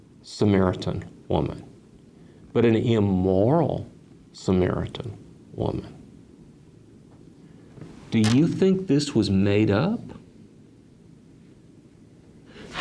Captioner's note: chair creaks